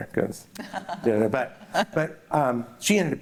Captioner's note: laughs